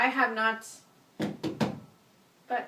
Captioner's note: hits wall